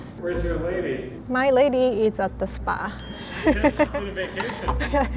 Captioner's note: laughs